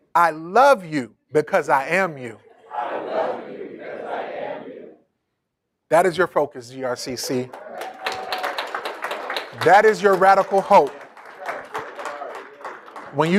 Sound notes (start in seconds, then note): 7.3 applauding